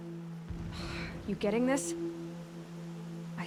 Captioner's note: sigh